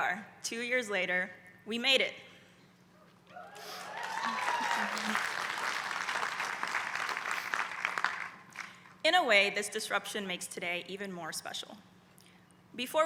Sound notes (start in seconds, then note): 3.5 applause